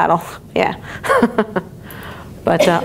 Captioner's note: laughs